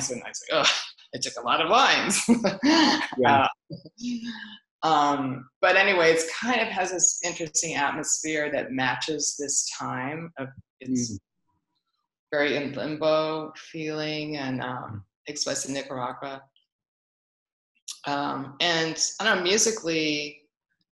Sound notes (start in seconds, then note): 2.7 laughs